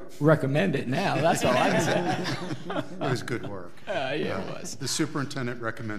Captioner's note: audience laughing